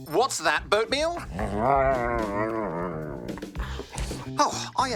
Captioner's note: grumbles